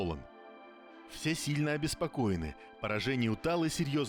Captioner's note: hesitantly